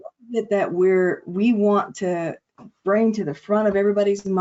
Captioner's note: audio distortion